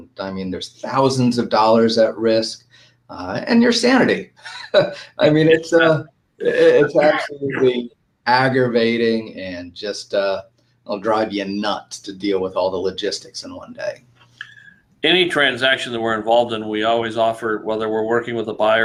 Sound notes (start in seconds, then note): 6.4 laughs